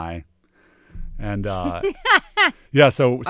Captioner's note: laughs